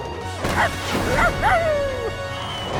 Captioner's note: barking